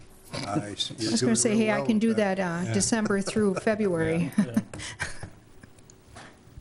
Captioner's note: laughter; laughs